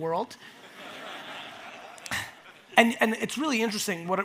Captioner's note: audience laughs